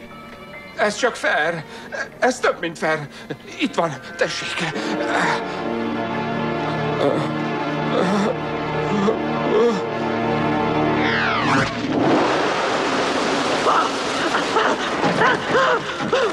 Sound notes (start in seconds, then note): 11.1 wind gusting; 13.1 panting and screaming